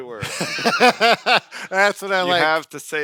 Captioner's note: laughing